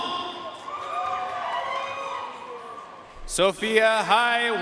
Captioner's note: audience cheering and applauding